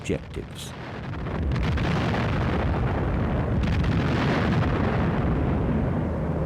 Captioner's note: explosions; gunfire